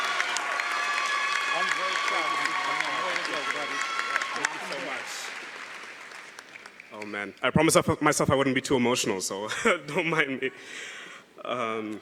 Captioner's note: cheering & Applause